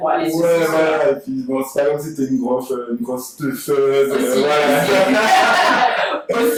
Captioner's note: laughs